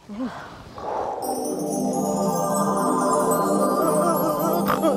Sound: magic sound

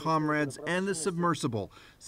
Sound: speaking russian

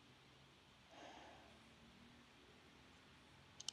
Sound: nyx sighs

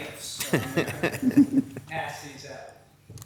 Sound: Mayor laughs

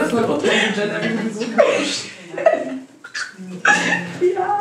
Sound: laughter

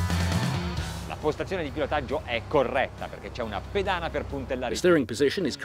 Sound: speaks in foreign language

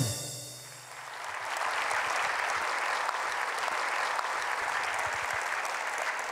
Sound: applause

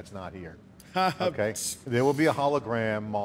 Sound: laughing

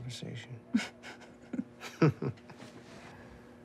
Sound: laughing

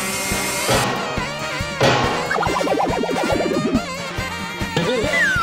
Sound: bangs

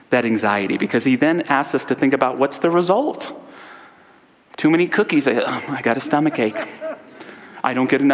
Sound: audience laughter

